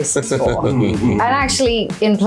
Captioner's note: laughing